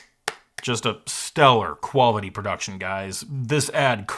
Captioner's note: clapping